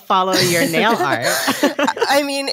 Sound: laughing

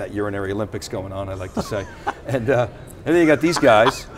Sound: laughs

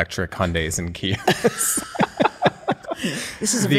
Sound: laughter

